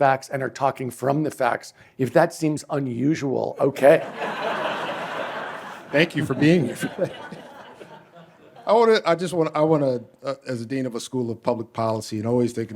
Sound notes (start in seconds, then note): 3.9 laughter